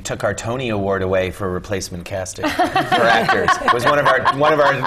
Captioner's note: laugh